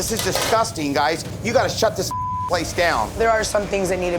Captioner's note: beeping